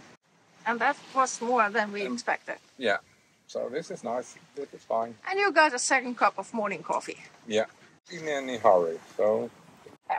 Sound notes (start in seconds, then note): none